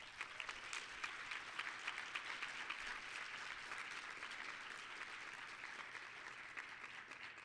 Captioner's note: applause